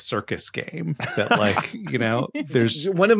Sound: laughs

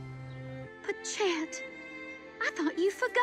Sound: sweet music playing; woman, on TV

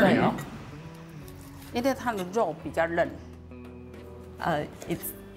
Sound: speaking local dialect

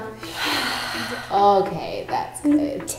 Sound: both breath

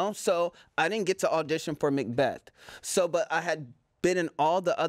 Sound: none

